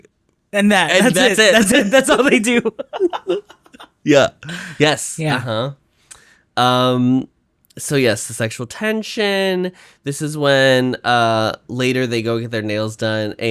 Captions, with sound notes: And that it. That's all they do. [Laughs] Yeah. Yes. Uh-huh. Um, so yes, the sexual tension. This is when uh later they go get their nails done